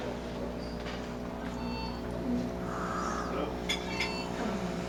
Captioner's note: alarm Beeping